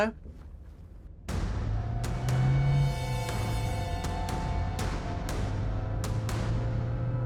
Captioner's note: dramatic music; engine rumbling